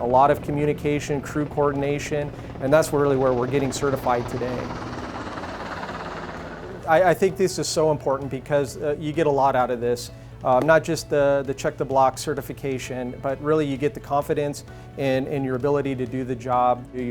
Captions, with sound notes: A lot of communication, crew coordination, and that's really where we're getting certified today. (helicopter blades whir) I think this is so important because you get a lot out of this. Not just the check the blocks certification, but really you get the confidence in your ability to do the job.